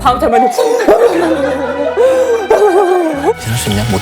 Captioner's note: crying his heart out